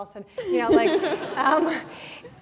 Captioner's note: laughter